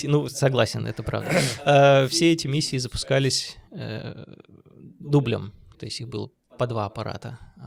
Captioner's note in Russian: откашливается